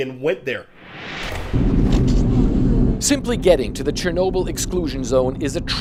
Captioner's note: voice-over